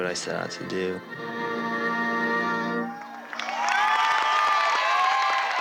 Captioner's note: applause